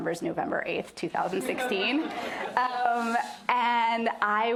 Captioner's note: laughter